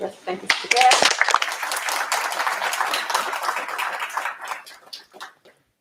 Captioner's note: applause